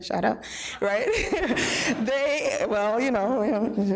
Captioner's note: laughing